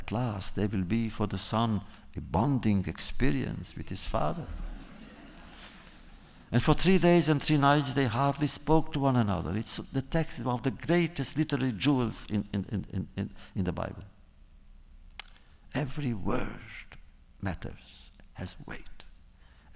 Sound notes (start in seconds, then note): 4.5 laughter